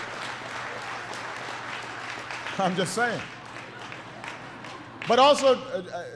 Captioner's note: laughter and applause